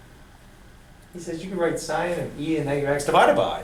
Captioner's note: voiceover